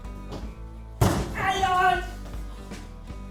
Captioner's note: shock and cry of pain